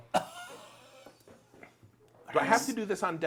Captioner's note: coughing